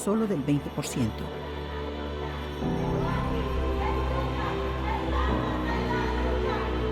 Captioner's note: upbeat music; chanting in foreign language